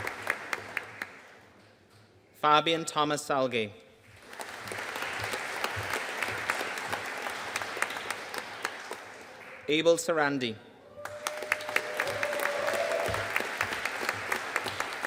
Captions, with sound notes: Fabian Thomas Salge. (AUDIENCE APPLAUDING) Abel Sarandi. (AUDIENCE CHEERING AND APPLAUDING)